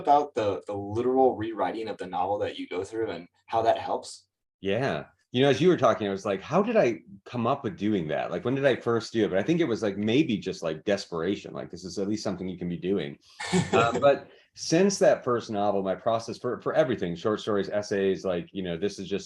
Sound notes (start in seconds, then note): 13.4 laughs